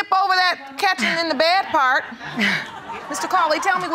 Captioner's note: laughter